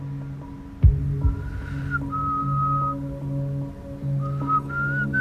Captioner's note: whistles